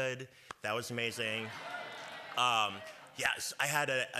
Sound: cheers

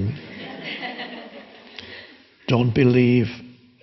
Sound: audience laughing

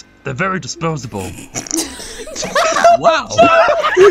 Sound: laughter

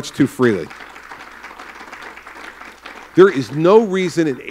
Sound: applause

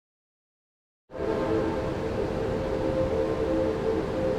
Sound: train horn

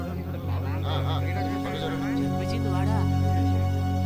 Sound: crowd murmuring

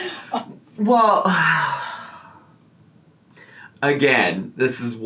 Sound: sighs

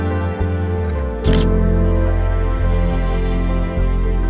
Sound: camera shutter clicks

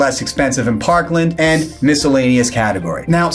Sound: graphics swish

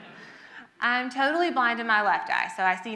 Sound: audience laughs

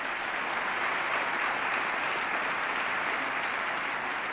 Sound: applause

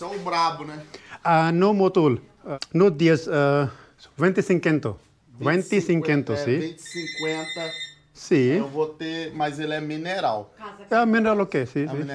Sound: speaking in Spanish

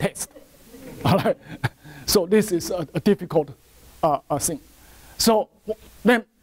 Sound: laughter from audience

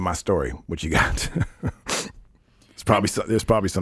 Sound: laughing

